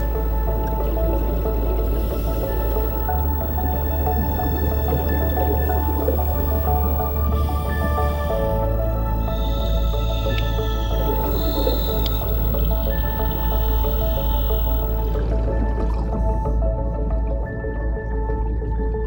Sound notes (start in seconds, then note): 0.0 water splashing; 0.3 scuba gear gurgling; 2.1 scuba gear hissing; 11.2 scuba gear hissing